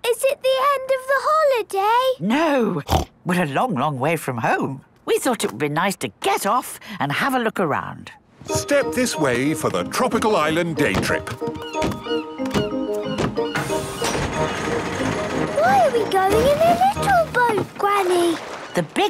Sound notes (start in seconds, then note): 2.8 snorts; 11.6 gulls squawking